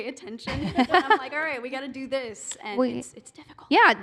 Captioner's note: whispering